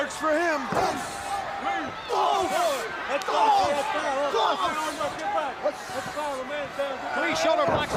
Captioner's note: crowd chatter